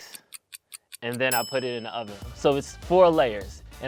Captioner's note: timer clicks; timer dings